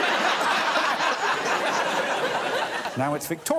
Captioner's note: all laughing